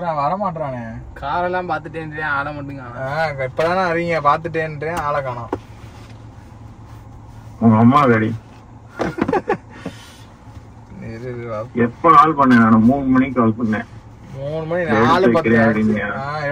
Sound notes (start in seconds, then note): 8.9 laughs